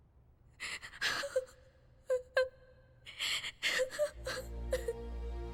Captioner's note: crying